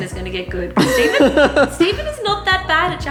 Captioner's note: laughter